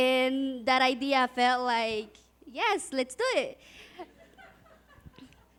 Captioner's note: audience laughs